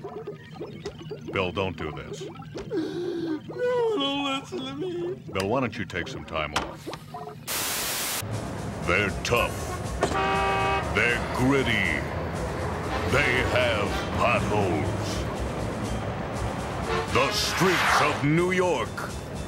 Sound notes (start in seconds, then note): 2.6 sobs; 9.4 horn honks